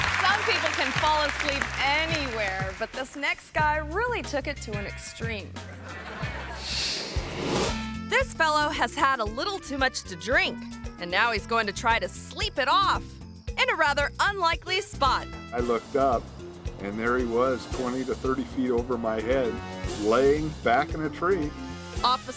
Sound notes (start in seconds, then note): 5.6 audience laughing; 6.6 air whooshes